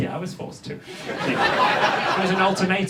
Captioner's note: audience laughs